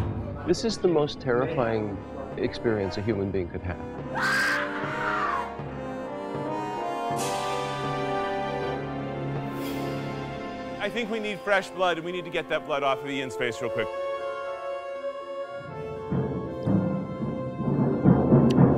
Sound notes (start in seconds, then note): 0.0 suspenseful music; 4.1 scream; 5.5 suspenseful music; 13.8 suspenseful music